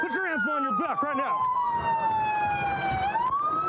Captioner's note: sirens blaring